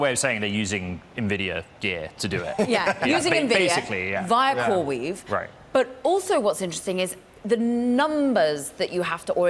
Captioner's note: laughter